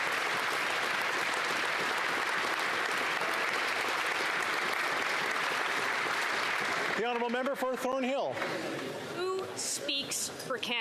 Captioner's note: applause